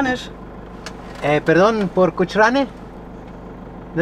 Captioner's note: in Spanish